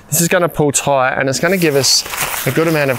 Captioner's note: tent crumpling